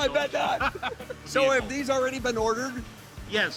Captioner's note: laughing